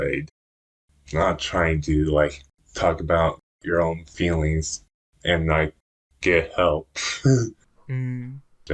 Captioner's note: laughs